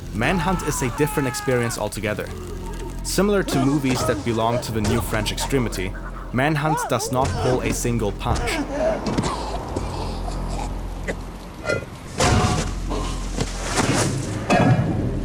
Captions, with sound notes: Manhunt is a different experience altogether. Similar to movies that belong to the new french extremity, Manhunt does not pull a single punch. *GURGLING AND COUGHING* *SMAHING FOLLOWED BY GURGLING*